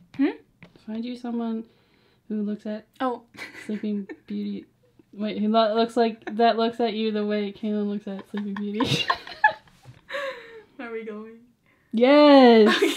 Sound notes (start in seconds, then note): 3.4 laughs; 8.1 both laugh; 12.7 laughs